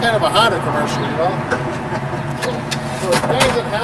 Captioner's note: laughs